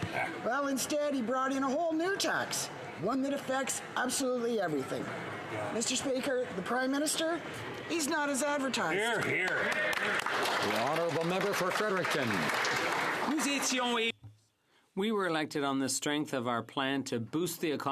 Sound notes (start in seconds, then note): 14.8 some Applause